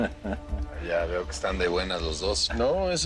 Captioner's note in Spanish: Risas